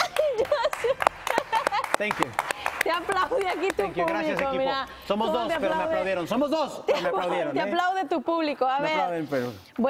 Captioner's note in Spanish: aplausos